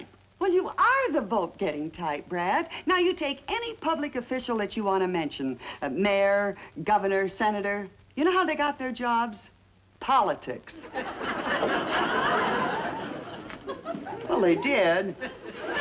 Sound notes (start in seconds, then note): 10.8 audience Laughs